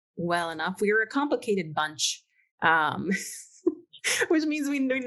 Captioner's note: laughs